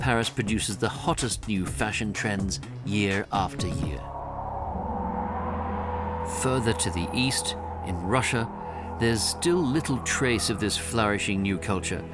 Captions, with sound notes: Paris produces the hottest new fashion trends year after year. [wind howls] Further to the east, in Russia there's still little trace of this flourishing new culture.